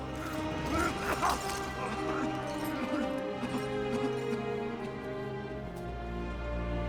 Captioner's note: sobbing